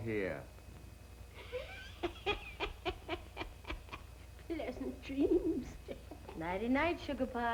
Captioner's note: cackling